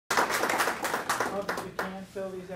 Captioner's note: applause